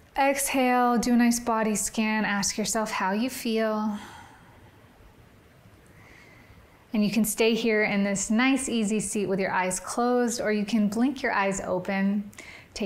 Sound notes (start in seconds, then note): 4.3 exhales